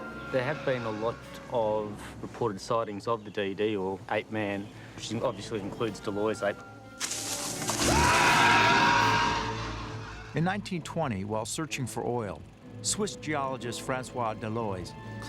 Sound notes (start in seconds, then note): 6.5 faintly speaking; 7.8 speaker shouting